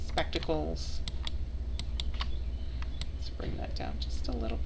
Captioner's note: mouse clicking